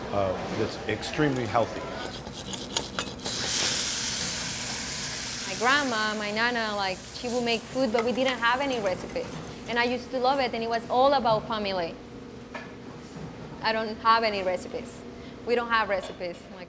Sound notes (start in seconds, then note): 2.2 pan sizzling